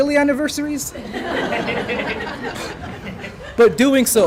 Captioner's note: laughter